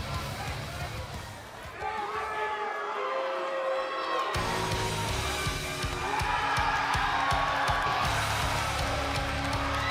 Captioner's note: crowd chatter